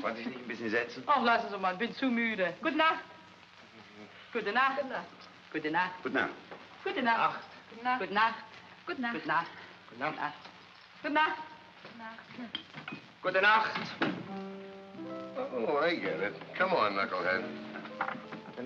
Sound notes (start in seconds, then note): 0.0 saying "good evening" in German; 0.3 speaking in German; 4.2 saying "good night" in German